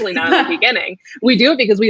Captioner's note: laughs